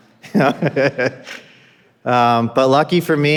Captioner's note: laughing